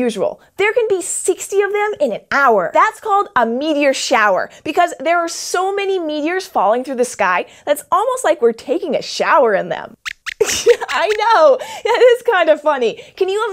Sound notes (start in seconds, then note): 10.0 squeaks laughs